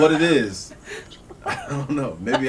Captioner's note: laughter